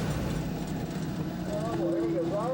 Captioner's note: engine rumbling